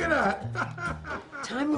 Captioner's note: laughs